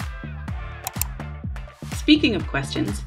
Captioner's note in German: Klicken